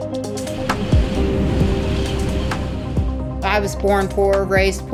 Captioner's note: wind rustling